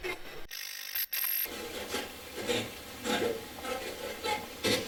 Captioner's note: static fizzing